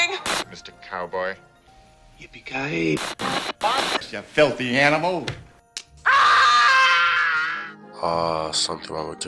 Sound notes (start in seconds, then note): 0.0 static; 6.0 Kevin from the movie Home Alone screams in agony after putting on aftershave